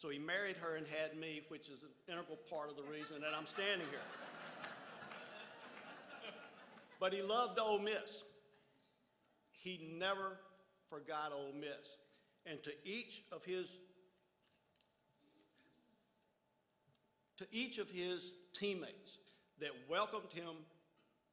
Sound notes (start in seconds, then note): 4.3 crowd laughs